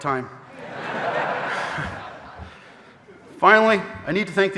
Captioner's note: audience laughing